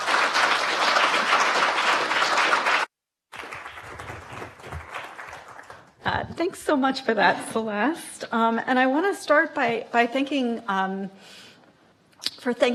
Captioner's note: applause